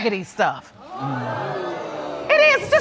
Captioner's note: audience murmuring